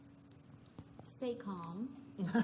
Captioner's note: laughter